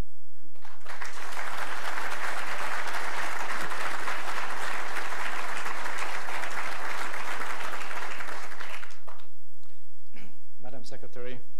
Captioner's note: applause